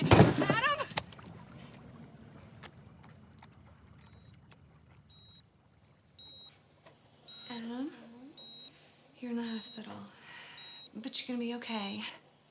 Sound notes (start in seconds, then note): 3.9 heart monitor beeping